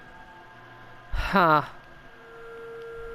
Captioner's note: noise of worry